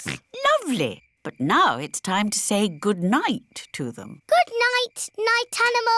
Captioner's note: snorts